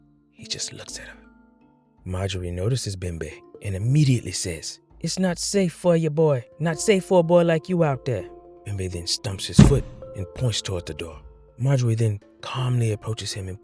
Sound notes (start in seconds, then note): 9.6 stomp